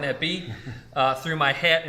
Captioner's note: laughs